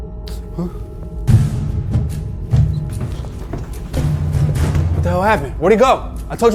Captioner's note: Jack exclaiming; dramatic music